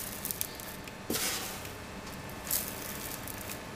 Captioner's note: quiet whirring of the devices